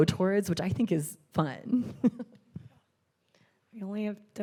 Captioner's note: chuckles